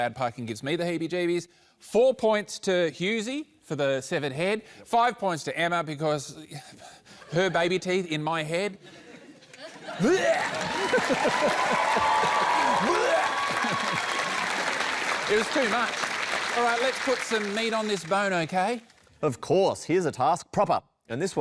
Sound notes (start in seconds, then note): 8.8 laughter; 11.6 cheering, applause; 14.1 cheering, applause